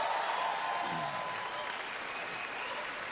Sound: cheering, applause

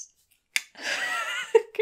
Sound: clicks tongue; laughs

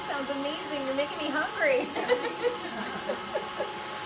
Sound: laughs

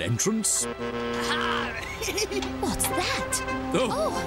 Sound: truck horn beeps

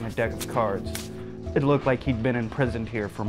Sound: cards shuffling

